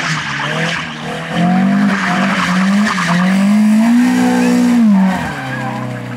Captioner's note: car sounds